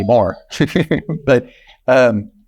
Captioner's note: chuckling